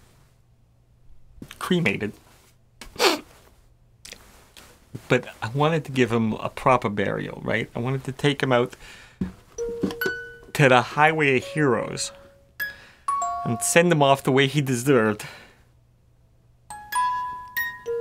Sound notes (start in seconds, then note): 2.9 sniff; 12.5 box tinkles; 16.7 he sniffs as he plays on the Jack-in-the-box